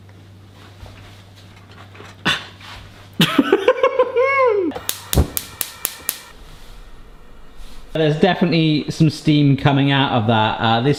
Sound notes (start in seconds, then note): 3.2 laughs